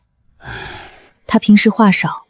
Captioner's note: sigh